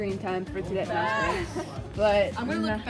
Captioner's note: laughs